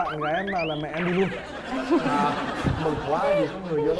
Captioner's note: laughing